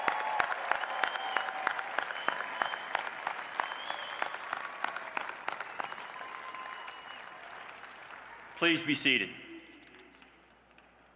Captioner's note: applause